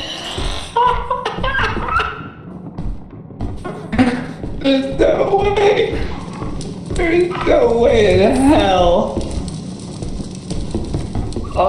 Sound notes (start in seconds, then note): 0.1 turret powering on; 0.5 laughing; 2.3 footsteps on wood; 3.9 gasping; 8.3 blips and beeps; 9.2 quick footsteps on wood